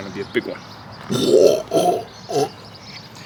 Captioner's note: vomits